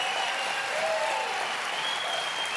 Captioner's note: applause